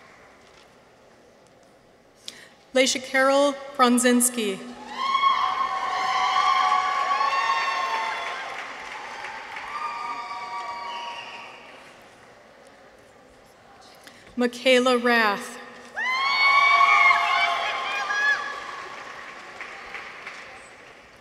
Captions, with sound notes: Laishacarol Prondzinski. -(people cheer) -(audience applauds) Mikaela Rath. -(people cheer) -(audience applauds)